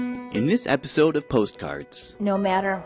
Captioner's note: voiceover